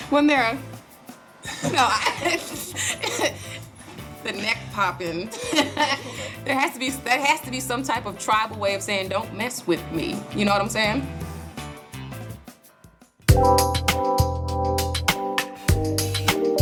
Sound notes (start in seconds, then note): 1.5 laughing; 5.2 laughing; 13.6 light jazz music